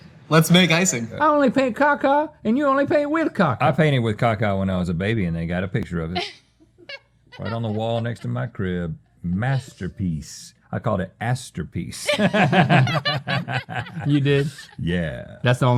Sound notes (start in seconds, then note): 12.0 laughing